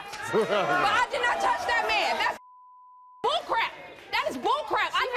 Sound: Steve laughs; beep

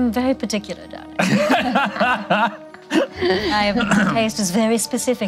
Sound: laughing

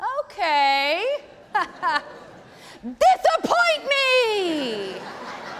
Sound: laughing; audience laughing

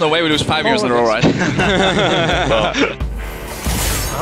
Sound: team laughs

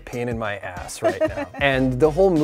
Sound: laughs

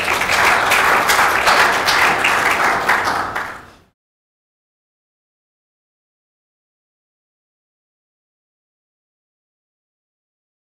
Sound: clapping

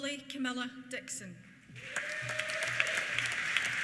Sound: applause; cheers

